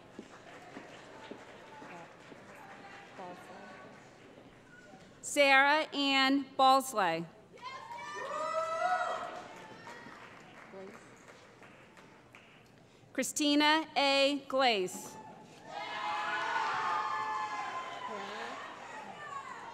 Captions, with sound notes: [ Applause ] Sarah Anne Balsley [ Cheering ] Christina A. Glace [ Cheering ]